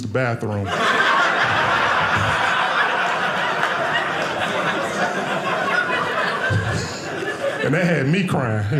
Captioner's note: audience laughing